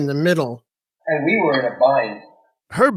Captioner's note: soundbite of archived recording